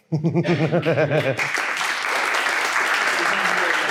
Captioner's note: audience applauds